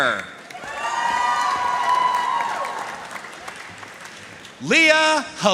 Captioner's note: audience cheering and applauding